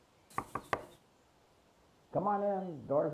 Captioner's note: knocking